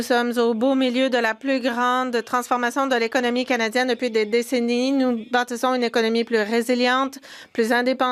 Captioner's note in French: voix de l'interprète